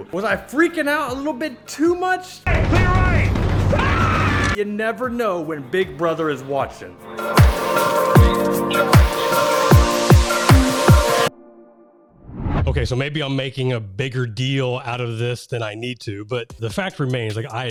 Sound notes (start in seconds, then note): 3.7 man screaming; 7.0 upbeat music